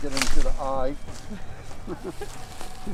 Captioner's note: laughing